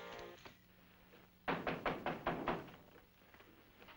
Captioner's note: knock